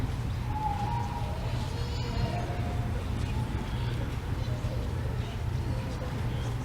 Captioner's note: none